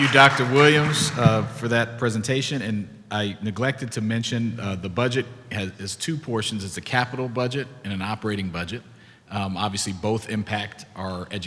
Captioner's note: clapping